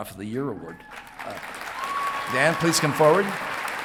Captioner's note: audience clapping